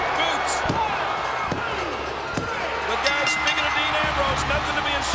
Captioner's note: bell ringing